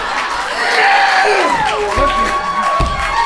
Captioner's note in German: bestialisches Grunzen; Applaus und Jubel